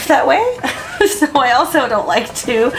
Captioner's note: laughing